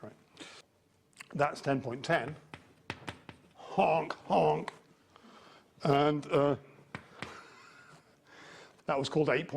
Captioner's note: laughs